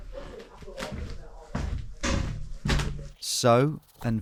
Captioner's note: actors chattering; footsteps scuffling